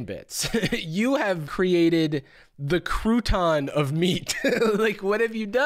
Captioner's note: laughs